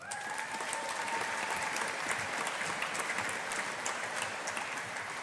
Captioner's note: audience applauding